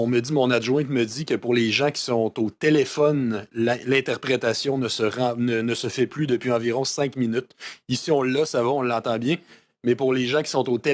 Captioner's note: speaking French